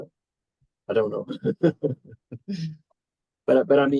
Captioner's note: laughs